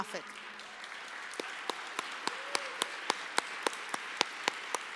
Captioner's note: applause